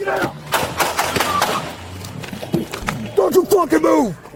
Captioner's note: shots fired